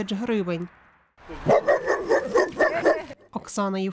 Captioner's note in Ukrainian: гавкають собаки